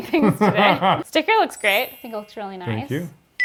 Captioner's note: laughs